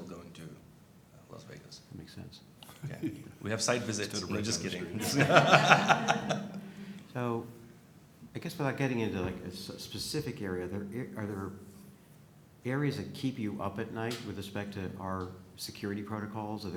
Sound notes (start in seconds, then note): 4.8 laughter